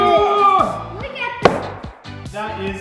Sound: plopping

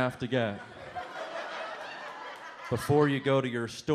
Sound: audience laughs

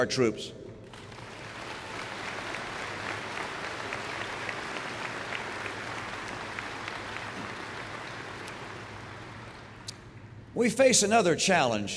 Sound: applause

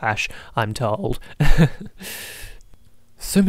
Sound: laughs

